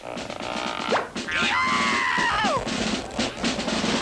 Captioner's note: cartoon pop sound effect; scream of bloody murder; cartoon rip sound effect